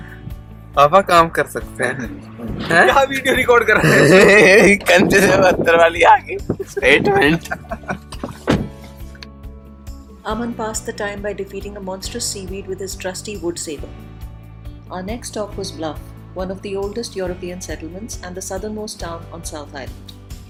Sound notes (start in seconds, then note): 6.5 laughing